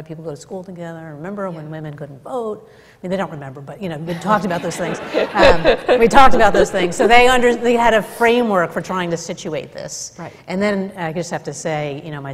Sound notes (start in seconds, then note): 4.2 laughter